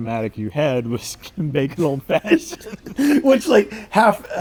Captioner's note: both laughing